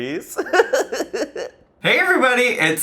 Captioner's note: laughing